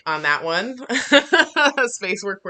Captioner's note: laughing